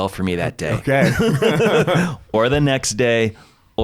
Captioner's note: laughs